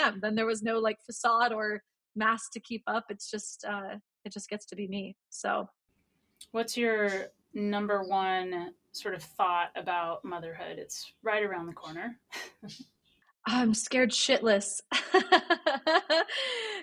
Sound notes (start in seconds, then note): 12.3 laughs; 15.0 laughs